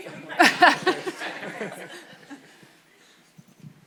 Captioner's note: audience laughs